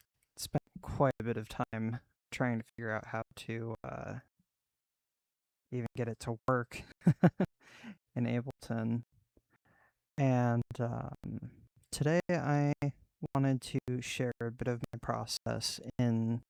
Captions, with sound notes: I spent quite a bit of time trying to figure out how to uhh... Even get it to work...(awkward laugh) - in Ableton Aaand uhhhmmm- Today I wanted to share a bit of my process, in